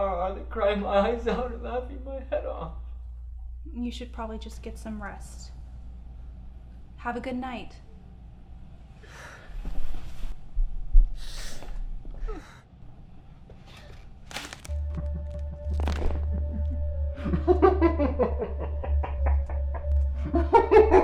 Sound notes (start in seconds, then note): 12.2 Isaac sobs; 15.7 body thumps; 17.9 clown laughing